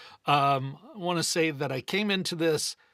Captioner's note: none